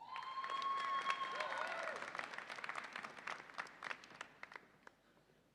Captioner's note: audience applauds and cheers